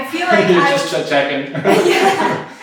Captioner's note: laughs